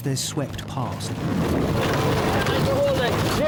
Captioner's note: water whooshing; wind whooshing